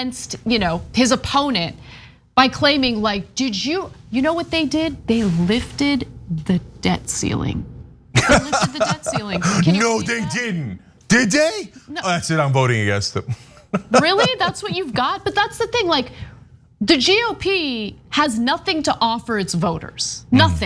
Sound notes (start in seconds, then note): 8.1 laugh; 13.2 laugh